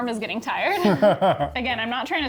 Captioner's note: laughs